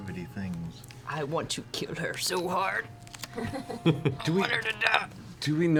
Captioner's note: strained